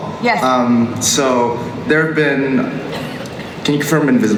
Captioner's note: voiceover